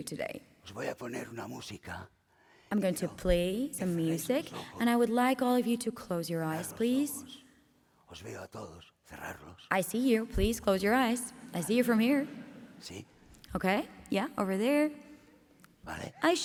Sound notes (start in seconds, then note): 0.6 speaking spanish